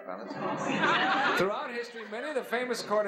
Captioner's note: laughs